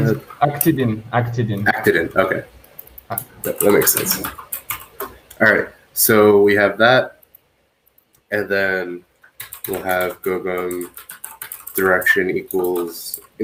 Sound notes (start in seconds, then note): 2.6 keyboard clacks